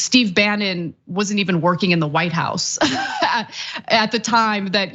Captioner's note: laugh